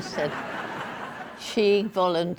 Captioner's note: audience laughing